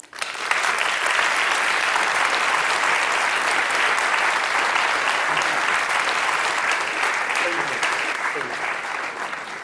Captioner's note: Alkış